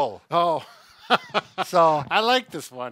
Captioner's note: laughter